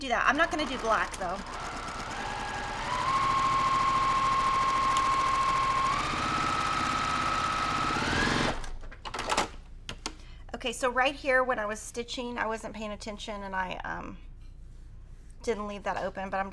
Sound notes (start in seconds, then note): 0.2 sewing machine whirling